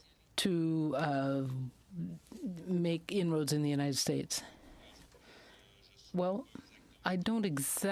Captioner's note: speaking French